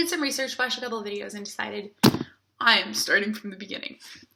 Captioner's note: fist bump noise